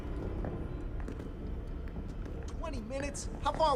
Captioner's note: footsteps tapping